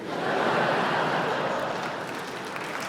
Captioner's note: laughter